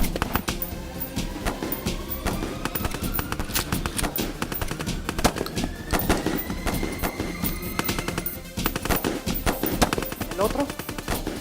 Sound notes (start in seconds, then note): 7.1 bleep of bomb counting down